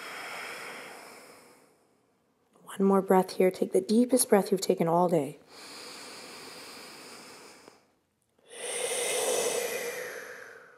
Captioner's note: inhales and exhales